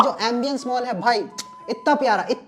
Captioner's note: kisses